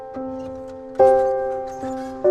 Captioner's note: door squeaking